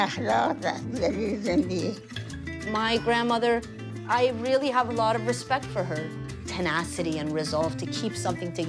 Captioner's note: speaking foreign language